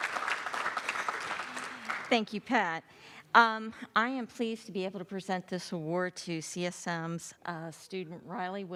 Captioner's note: applause